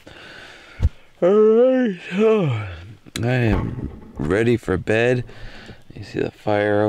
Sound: yawning

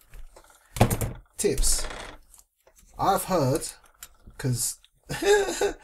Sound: laughing

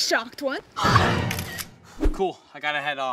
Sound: camera flashing

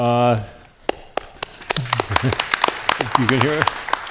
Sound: attendees applauding

